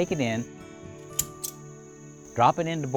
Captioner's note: clinking